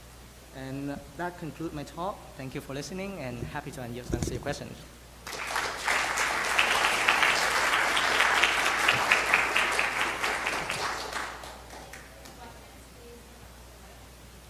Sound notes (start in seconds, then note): 5.2 audience applauding